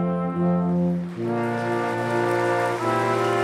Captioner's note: applause